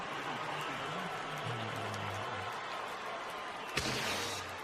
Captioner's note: screaming